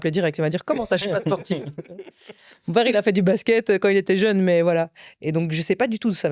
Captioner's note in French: rires